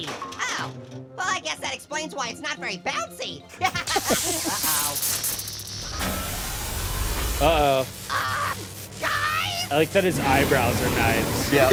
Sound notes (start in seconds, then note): 3.6 Annoying Orange laughs; 3.7 laptop sizzles